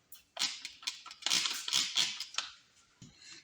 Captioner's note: pump bottle squirts